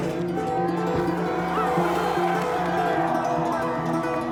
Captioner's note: crowd cheering